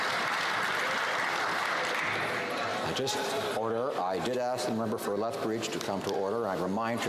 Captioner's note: some Applause